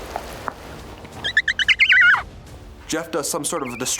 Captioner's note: screeching